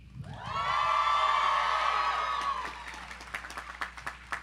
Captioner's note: audience cheering